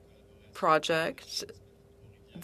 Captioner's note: speaking French